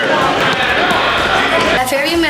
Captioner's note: playful chatter and noise